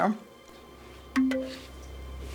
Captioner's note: computer chimes